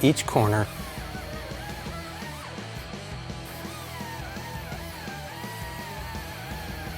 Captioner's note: intense rock music; tool whirs